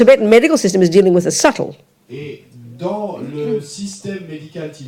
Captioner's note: audience member speaks in French